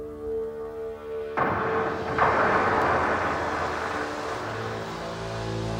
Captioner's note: explosion booming